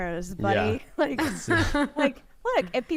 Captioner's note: laughs